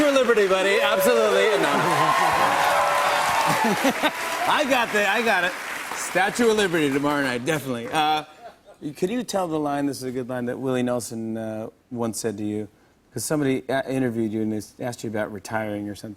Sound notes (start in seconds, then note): 1.7 chuckles; 2.2 cheers and applause continues